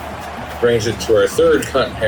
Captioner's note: crowd Noises